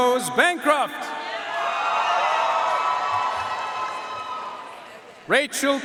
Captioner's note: audience cheering and applauding